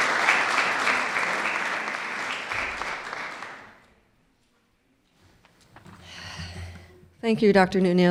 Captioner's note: clapping